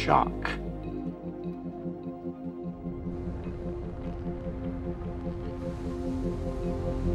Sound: daunting music; rocket firing

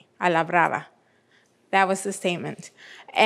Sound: speaking in foreign language

